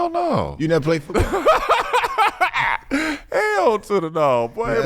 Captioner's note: laughing